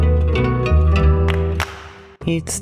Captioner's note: clap clap